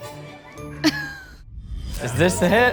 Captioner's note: laughs